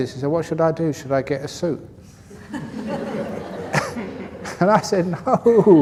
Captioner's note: laughter